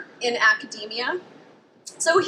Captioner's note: traffic faintly hums